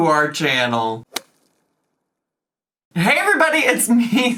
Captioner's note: logo thuds